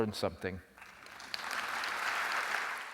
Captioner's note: applause